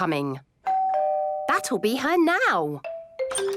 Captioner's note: doorbell rings